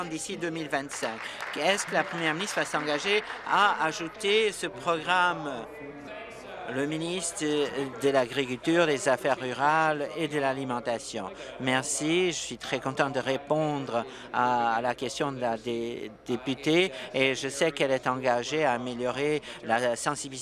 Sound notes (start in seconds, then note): 5.0 applause